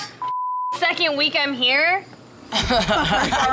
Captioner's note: beep